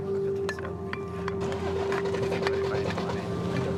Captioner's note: metal clinking